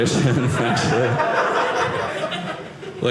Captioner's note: audience laughing